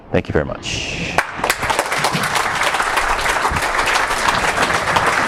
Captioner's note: audience applauds